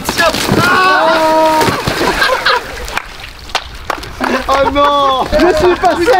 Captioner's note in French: brouhaha; rires